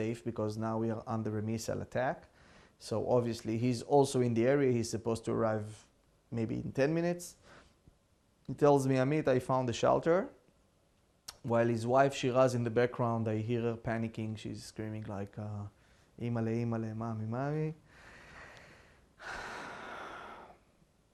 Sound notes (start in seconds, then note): 15.8 hebrew; 19.2 sighing